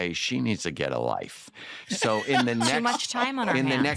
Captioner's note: laughs